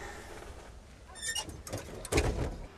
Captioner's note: sighing